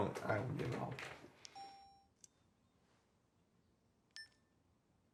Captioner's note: beeps